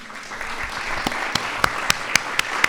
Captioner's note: applause